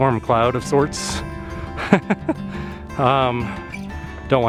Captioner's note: laughter